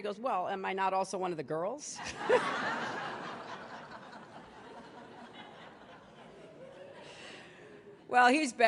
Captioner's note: laughter